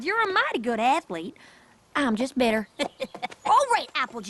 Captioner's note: chuckles